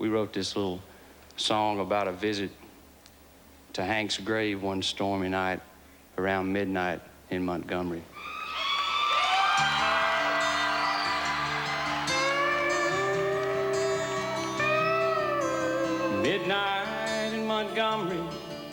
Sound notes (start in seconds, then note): 8.2 cheering; 10.8 slow country beat